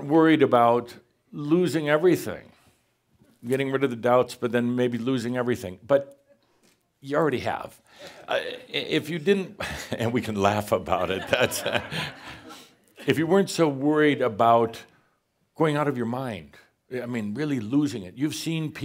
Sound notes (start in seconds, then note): 9.6 a couple of chuckles; 11.0 more chuckles